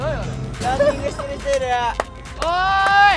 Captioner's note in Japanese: 拍手